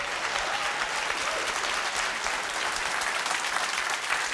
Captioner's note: applauding